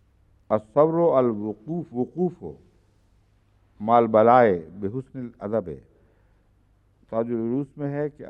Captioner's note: Arabic